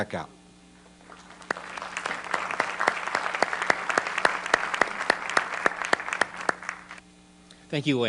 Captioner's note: applause